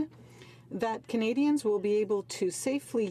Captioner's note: speaking French